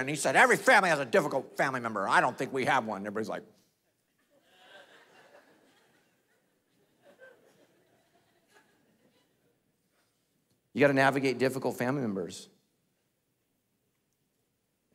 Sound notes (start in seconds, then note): 4.1 congregation laughing